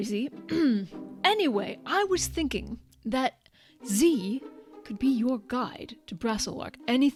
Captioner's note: clears throat